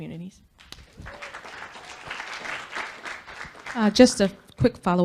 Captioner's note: audience Clapping